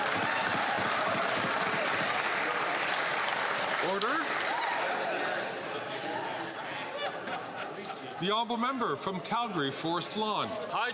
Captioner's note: some Applause